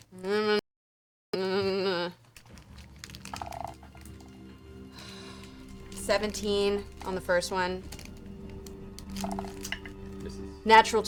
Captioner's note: nervous noises